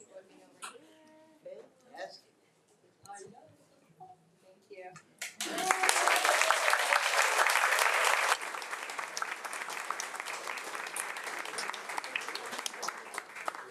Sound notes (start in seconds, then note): 5.3 audience applauds